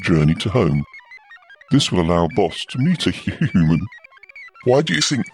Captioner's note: laughs